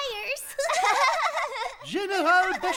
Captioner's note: girls giggling